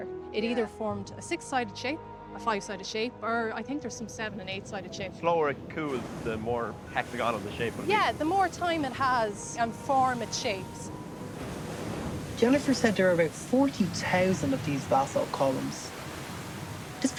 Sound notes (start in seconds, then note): 11.5 voice-over